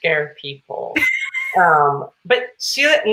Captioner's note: Celia laughs